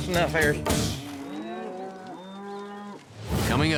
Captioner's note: cattle mooing